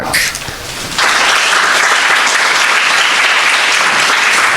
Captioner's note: crowd applauding